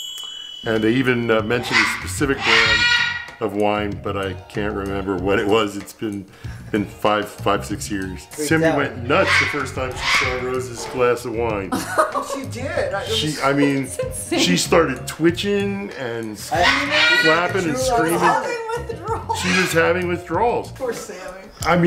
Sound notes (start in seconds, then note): 11.6 laughs loudly